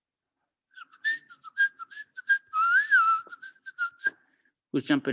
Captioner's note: whistling